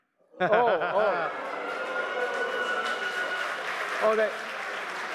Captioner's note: applause